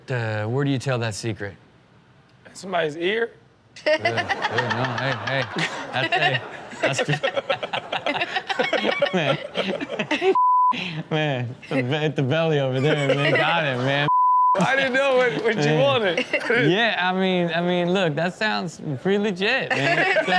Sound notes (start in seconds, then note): 3.8 Chanel laughs; 6.9 hosts laugh